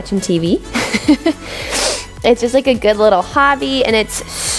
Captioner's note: chuckles